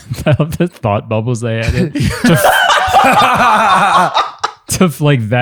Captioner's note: laughter